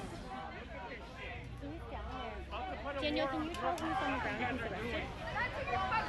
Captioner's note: protesters shouting